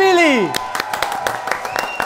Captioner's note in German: Jubel, Applaus